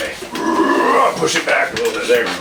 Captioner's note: forceful grunt